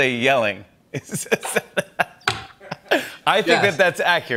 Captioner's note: both laugh